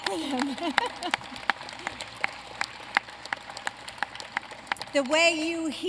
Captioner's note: applause